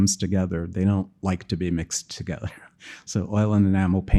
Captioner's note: chuckling